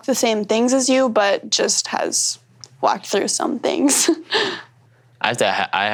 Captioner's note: chuckles